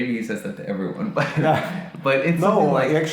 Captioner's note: laughing